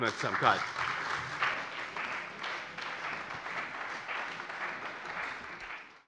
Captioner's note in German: Beifall bei dem BÜNDNIS 90/DIE GRÜNEN und der CDU